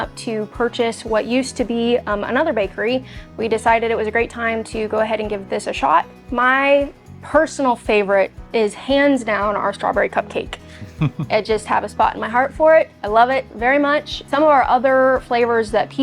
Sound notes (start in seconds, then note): 10.8 chuckling